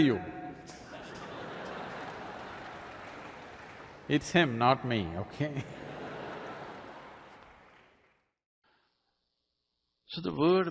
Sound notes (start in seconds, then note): 0.1 laughter/Applause; 6.7 laughter